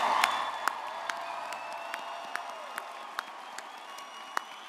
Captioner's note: audience cheers